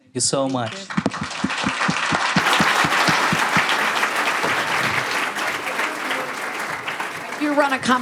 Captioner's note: audience applause and laughter